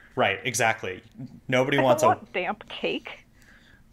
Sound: weird audio glitch, sorry!

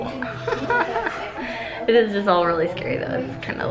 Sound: laughs

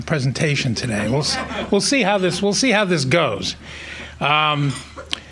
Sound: laughing

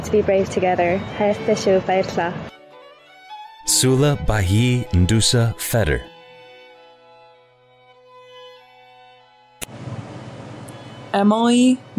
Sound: non-english speech

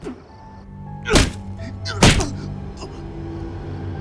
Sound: Marcus groaning; insects chirping; Marcus groaning; tense music

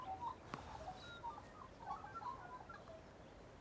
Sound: birds chirping

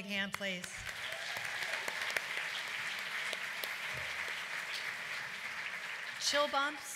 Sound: applause

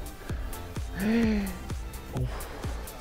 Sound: gasps

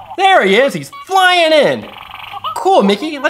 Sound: voiceover

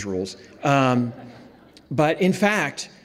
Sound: audience laughs

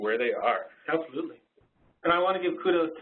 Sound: voiceover

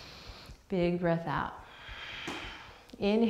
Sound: deep breath; deep breath

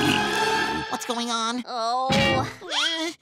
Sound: Sandy groaning

